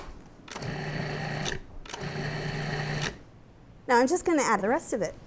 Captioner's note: mixer whirring